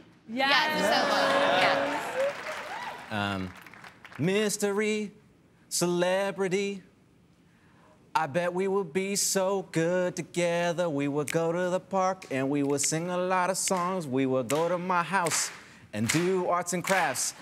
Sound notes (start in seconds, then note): 2.9 applause; 15.9 rhythmic clapping